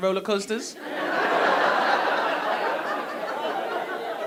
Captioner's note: audience laughing